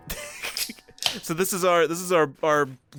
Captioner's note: can Cracking